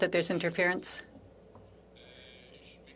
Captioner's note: speaking French